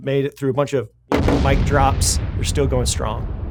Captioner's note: explosion booms